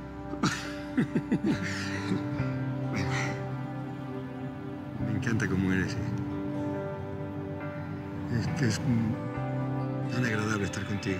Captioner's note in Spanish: Risas